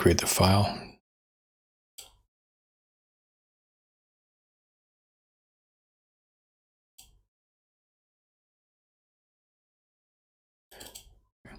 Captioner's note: blank Audio